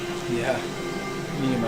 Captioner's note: chuckling